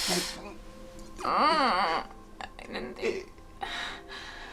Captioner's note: Naomi crying